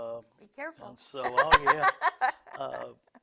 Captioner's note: laughs